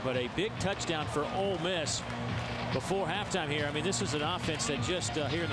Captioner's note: crowd noise